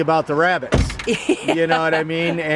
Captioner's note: laughing